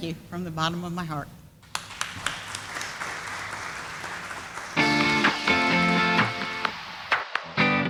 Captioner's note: sound of applause